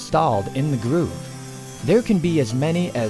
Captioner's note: saw machine sounds